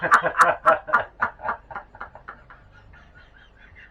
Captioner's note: haha